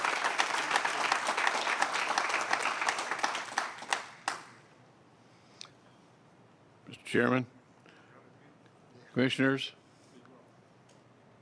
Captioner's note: applause